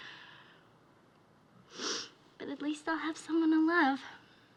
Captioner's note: sniffles